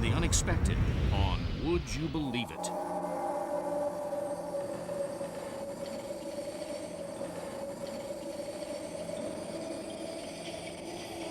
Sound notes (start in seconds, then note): 3.2 eerie winds